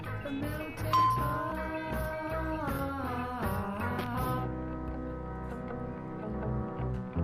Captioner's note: bell rings; mellow rock music